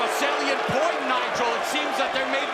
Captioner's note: crowd cheering